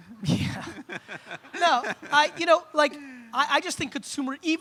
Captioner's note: audience laughs